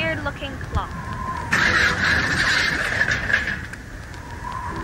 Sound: crash!!

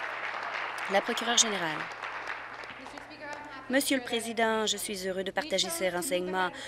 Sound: applause

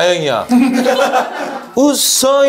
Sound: hahahaha

